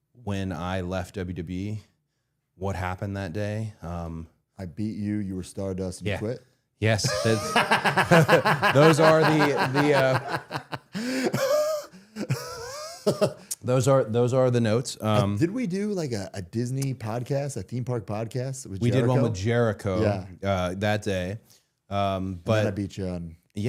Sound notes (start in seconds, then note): 7.0 all laughing; 10.5 Matt laughing